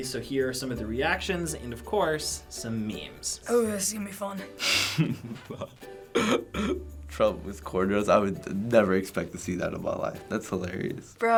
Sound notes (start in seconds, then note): 4.6 chuckles